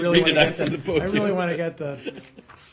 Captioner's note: laughter